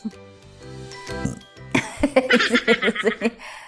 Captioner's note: chuckling; burps and chuckles